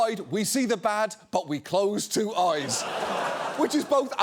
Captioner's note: studio audience applauding